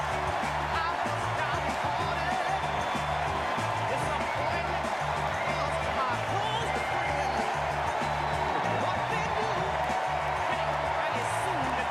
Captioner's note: applause